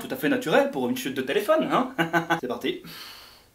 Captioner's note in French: rires